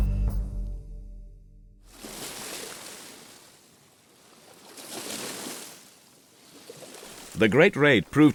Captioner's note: sounds of water in the loch